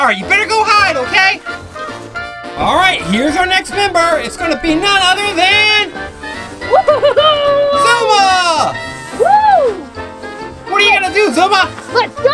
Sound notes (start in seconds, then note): 6.7 Zuma cheering